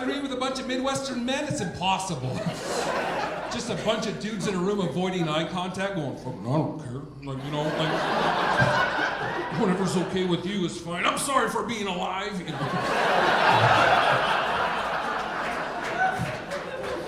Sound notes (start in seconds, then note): 12.3 audience laughing